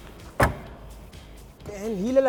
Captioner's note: seat clicks in place